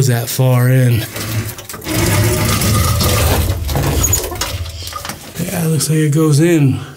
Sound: metal door scraping on rocks

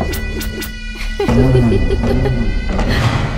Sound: laughs

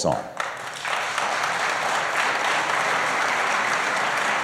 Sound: applause

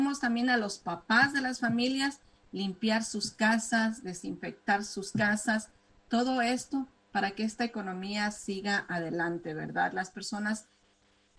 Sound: speaking spanish

